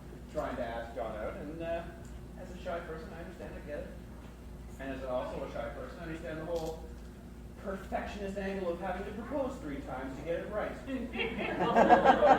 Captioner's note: crowd laughs